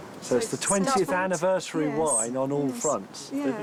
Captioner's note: none